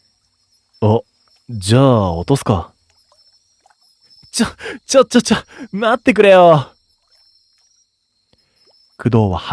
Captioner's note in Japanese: 笑い